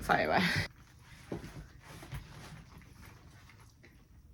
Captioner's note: awkward silence